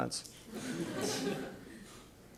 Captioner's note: laughters